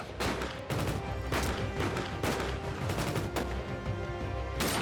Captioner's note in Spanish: tiroteo intenso